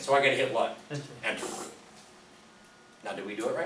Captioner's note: voiceover